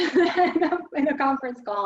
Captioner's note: chuckles